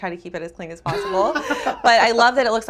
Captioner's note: laughs